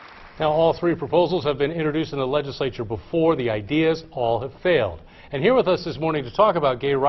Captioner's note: applause